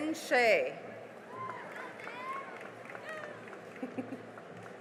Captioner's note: cheering and applause